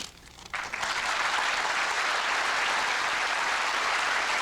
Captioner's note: applause